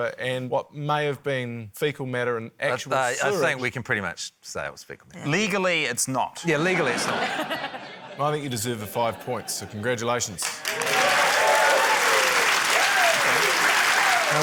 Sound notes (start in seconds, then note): 6.7 laughter; 10.4 cheering, applause